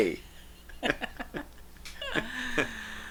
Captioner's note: laughing